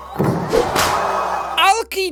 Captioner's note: high-five noise